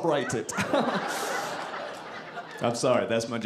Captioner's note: audience laughing